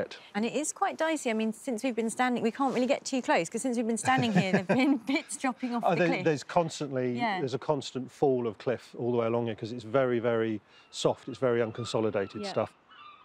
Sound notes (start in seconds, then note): 7.6 laughs